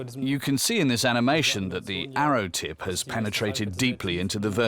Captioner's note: in German